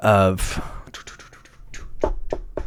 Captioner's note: tapping